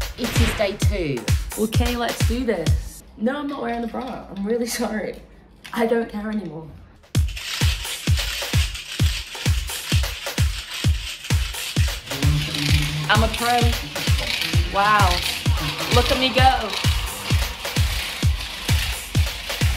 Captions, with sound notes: - It is Day 2. - Okay, let's do this. No, I'm not wearing a bra. I'm really sorry. I don't care anymore. (funky music playing) (weight clicking) I'm a pro. Wow, look at me go.